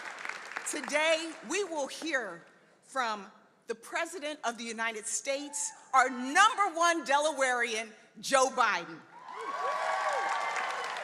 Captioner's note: applause